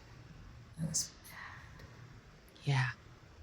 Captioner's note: whispering